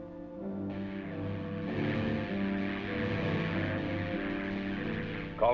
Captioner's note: electricity zapping